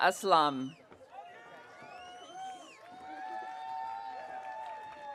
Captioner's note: audience cheering